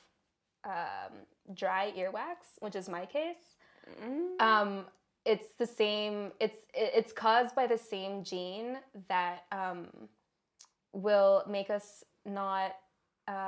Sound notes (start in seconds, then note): none